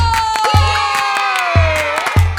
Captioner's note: cheers